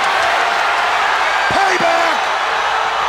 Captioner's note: audience cheers